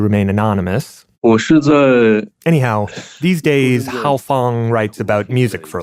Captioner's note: speaking Mandarin Chinese